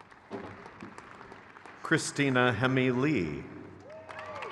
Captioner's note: crowd cheers